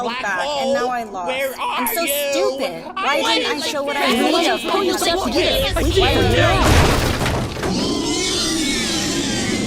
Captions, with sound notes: - [MARKER YELLING] - I shouldn't have held back, - [MARKER YELLING] - and now I lost. I'm so STUPID! - [OTHERS YELLING] - Why didn't I show what I'm MADE of - [OTHERS YELLING] - Why didn't I show what I'm MADE of - [OTHERS YELLING] - when I had the chance, why didn't I—?